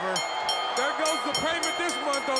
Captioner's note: bell ringing